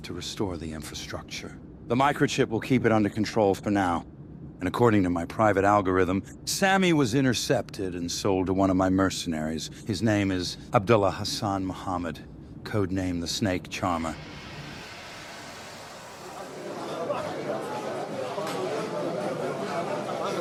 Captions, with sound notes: to restore the infrastructure. The microchip will keep it under control for now. And according to my private algorithm, Sammy was intercepted and sold to one of my mercenaries. His name is Abdullah Hassan Muhammad, code name the Snake Charmer. (airplane engine roaring) (crowds chattering)